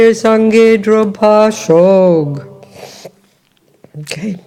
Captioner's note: French